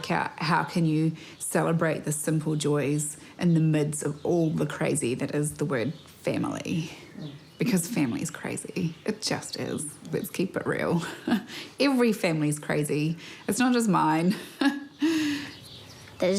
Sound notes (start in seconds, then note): 11.1 chuckles; 14.3 chuckles